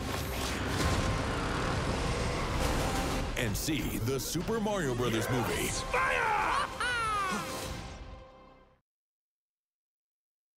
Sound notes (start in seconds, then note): 6.0 Mario Laughing excitedly